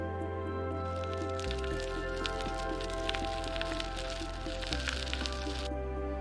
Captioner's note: bicycle tires crackles